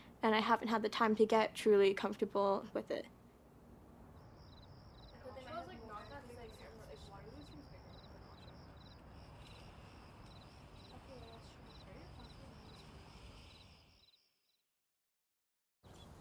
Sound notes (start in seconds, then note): 4.7 crickets chirping; 6.1 overlapping chatter; 9.7 curtains sliding closed